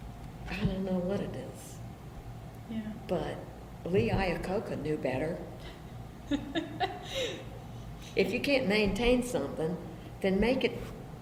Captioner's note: laughs